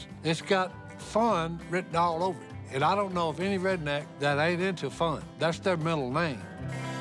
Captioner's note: none